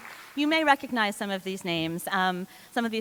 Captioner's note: applause